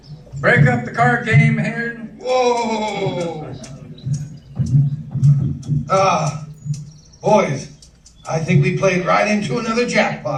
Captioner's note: footsteps